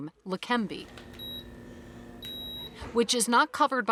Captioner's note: device beeping